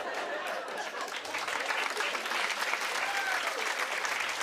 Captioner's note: applause